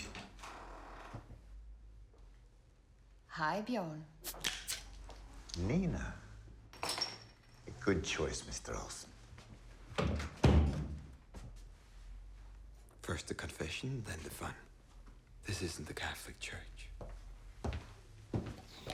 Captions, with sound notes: (door creaks) - Hi, Bjorn. - Nina. A good choice, Mr. Olsen. (door closes) - First the confession, then the fun. This isn't the Catholic Church.